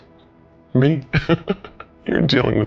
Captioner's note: laughing